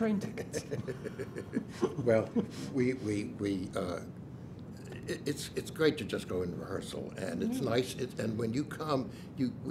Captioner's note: laughs